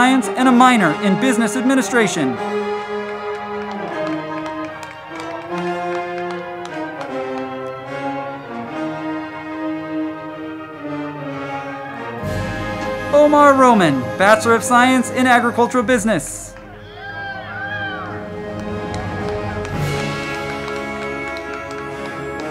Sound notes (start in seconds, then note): 3.0 band music; 3.0 crowd clapping; 17.4 band music; 17.4 crowd clapping and cheering